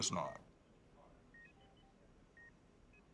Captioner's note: medical equipment beeping